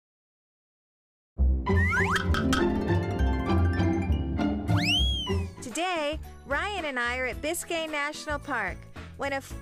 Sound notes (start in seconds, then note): 1.7 lighthearted music; 1.7 whistling; 2.5 clacking; 4.7 whistling; 5.5 jazzy music